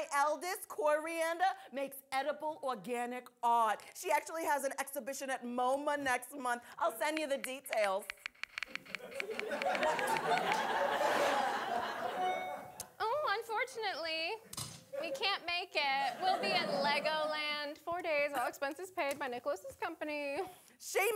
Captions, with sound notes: My eldest, Coriander, makes edible organic art. She actually has an exhibition at MOMA next month. I'll send you the details. (tapping keys) (audience laughing) (phone dinging) - Oh, unfortunately, we can't make it. We'll be at Legoland. Four days, all-expenses paid by Nicholas's company.